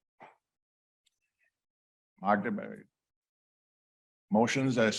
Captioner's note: speaking in foreign language